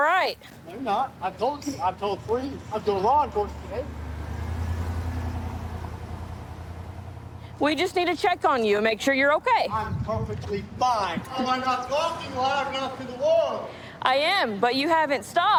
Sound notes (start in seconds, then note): 4.5 vehicle driving